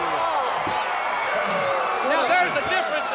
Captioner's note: crowd cheering